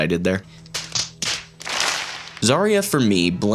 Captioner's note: slapping Sounds